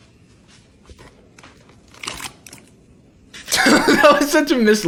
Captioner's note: vegetables hit bowl; laughs